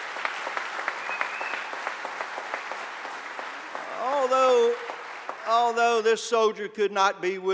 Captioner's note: applause